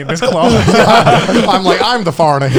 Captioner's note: all laughing